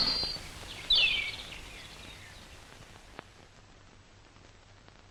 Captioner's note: birds chirping